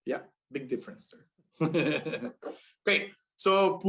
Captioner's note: laughter